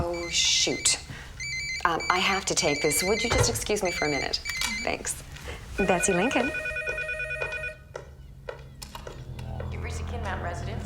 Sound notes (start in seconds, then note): 5.7 phone ringing